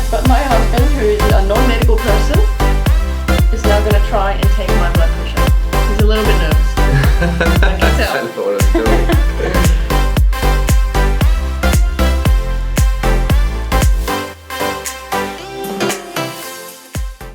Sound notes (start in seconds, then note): 8.6 laughs; 10.5 upbeat music